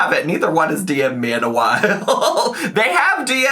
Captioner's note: laughing